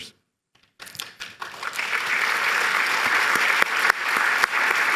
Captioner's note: applause